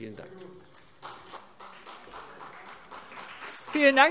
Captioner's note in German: Beifall CDU und vereinzelt BÜNDNIS 90/DIE GRÜNEN